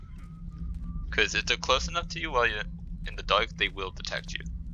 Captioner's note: guard whistles